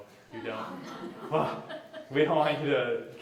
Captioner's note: laughter